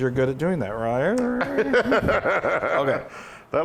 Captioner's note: laugh